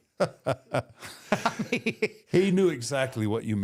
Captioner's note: both laughing